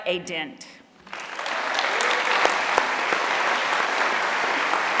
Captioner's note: applause